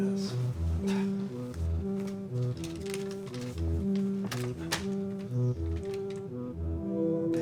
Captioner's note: ominous music; paper rustling